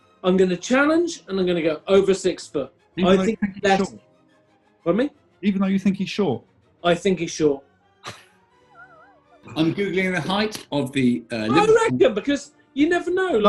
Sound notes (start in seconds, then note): 9.3 sniggering